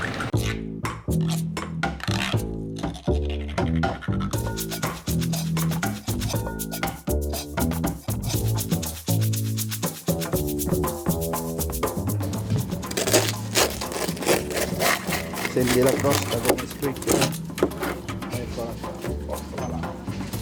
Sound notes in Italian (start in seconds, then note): 12.9 Rumore di crosta che viene tagliata